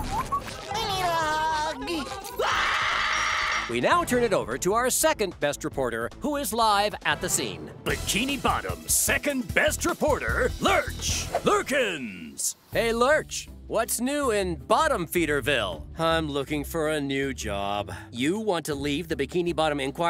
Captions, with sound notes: I need a hug. [screaming] We now turn it over to our second best reporter, who is live at the scene. Bikini Bottom's second best reporter Lurch Lurkins. Hey, Lurch, what's new in Bottomfeederville? I'm looking for a new job. You want to leave the Bikini Bottom Inquirer?